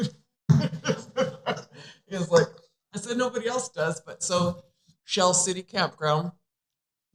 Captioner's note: laughter